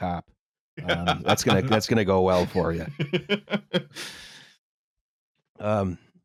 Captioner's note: laughs